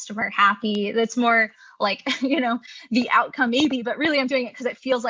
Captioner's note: chuckles